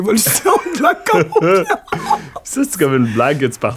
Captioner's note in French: éclat de rire